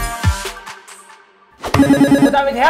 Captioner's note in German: Buzzer